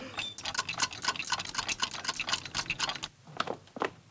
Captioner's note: Morgan screams; clocks ticking